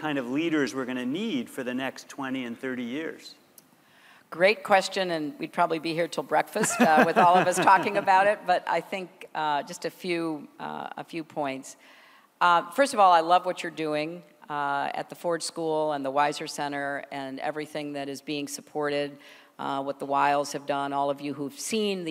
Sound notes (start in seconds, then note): 6.6 laughter